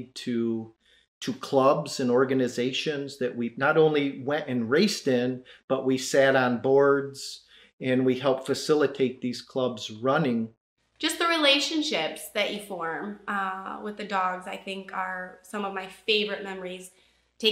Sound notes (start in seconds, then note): none